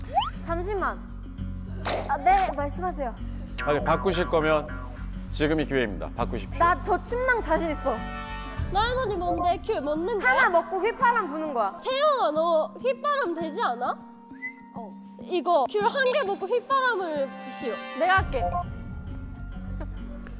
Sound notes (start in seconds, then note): 14.2 whistling